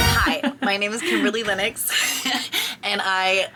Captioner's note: exciting music; laughs